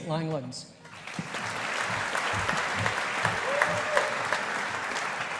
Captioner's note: audience applauding